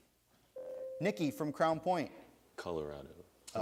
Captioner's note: buzzer sounds